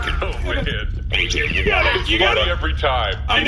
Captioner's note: laughs